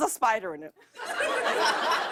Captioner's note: laughter